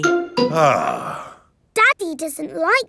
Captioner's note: sighs